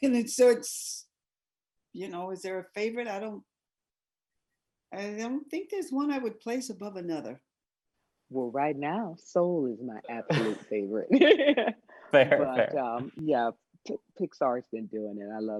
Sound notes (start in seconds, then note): 12.1 chuckling